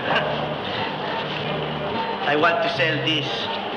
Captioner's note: man laughs